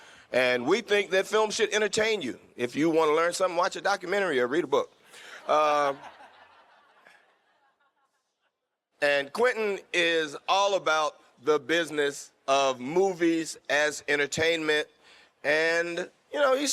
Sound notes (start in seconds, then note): 5.2 fans laughing; 5.6 Quentin laughing